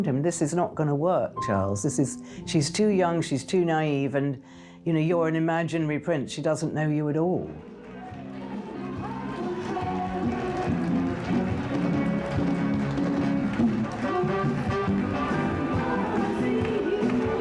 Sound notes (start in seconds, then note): 8.5 crowd cheering; 9.5 gentle upbeat music; 12.0 crowd cheering; 13.0 gentle upbeat music; 17.1 crowd cheering